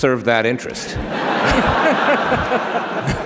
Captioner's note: laughter